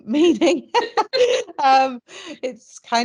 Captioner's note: both laughing